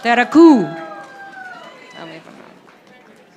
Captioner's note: audience applauding